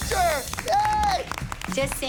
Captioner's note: applause